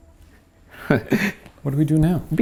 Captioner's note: laughing